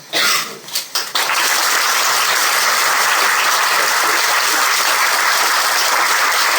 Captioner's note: applause